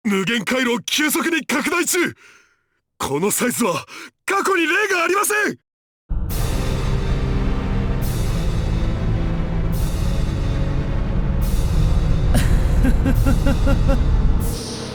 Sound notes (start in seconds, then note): 12.3 chuckle